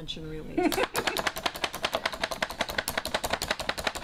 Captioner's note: chopper thumping